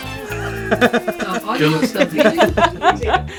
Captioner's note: laughter